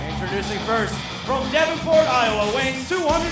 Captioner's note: bell ringing